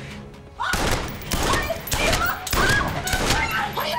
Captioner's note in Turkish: Silah sesleri